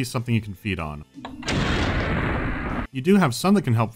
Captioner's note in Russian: бабах